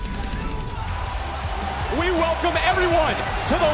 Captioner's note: crowd cheering